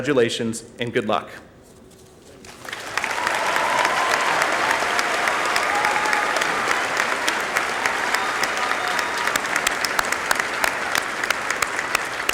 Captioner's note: applause